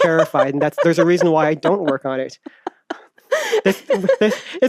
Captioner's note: laughs